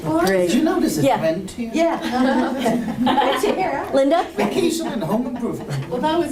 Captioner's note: audience chatter